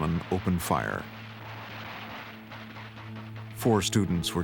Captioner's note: crackle of gunshots